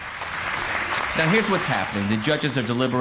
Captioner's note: applause fades in